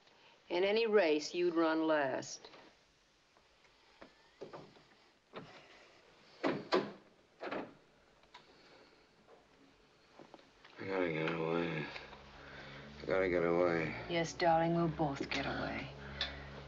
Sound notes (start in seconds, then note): 7.4 door Closes